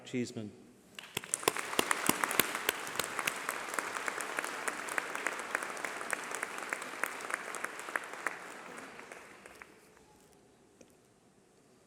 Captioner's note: applause